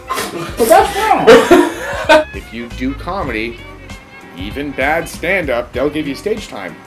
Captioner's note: laughter